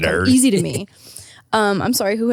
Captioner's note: chuckles